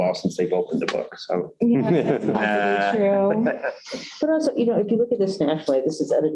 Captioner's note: laughter